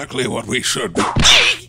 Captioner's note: whip cracks!